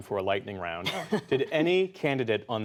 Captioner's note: laughter